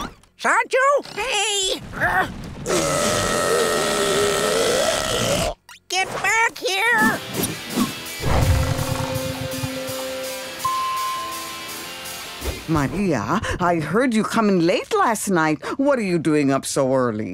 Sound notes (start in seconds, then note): 2.6 burping; 10.6 dinging